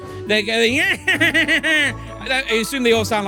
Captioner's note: Waluigi Noises